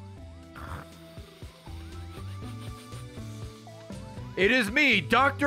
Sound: laughs

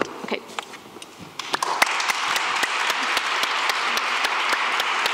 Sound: applause

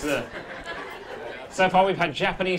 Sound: audience laughing

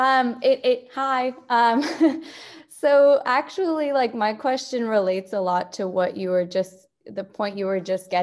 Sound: laugh

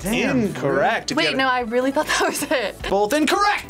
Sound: laughs

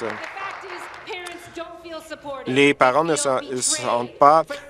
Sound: applause

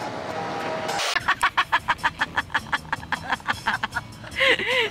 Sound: laughing

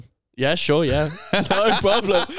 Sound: laughing

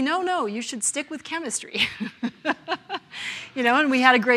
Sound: laughs

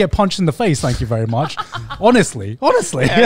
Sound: laughs

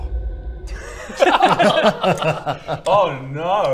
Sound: unnerved laughter

